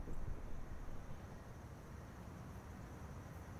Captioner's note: crickets chirring